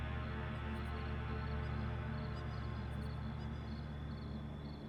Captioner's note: insects chirping